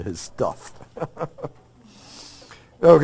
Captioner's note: laughs